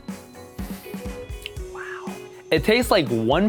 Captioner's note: whispers